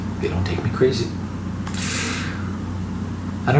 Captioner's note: deep breath